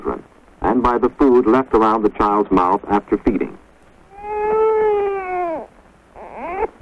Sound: baby crying

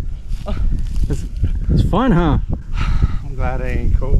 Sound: grunting

